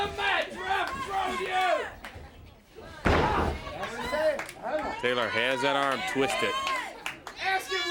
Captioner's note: crowd chatter